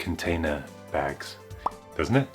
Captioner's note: pop!